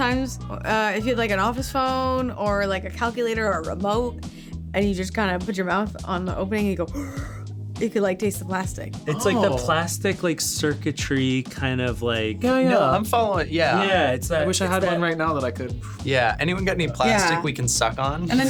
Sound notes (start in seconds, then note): 6.9 inhaling; 15.8 inhaling